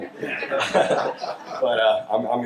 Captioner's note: all laugh